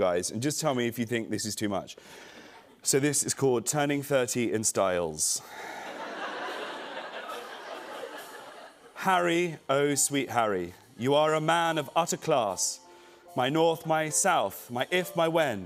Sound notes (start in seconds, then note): 5.6 laughter